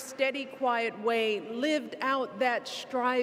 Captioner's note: none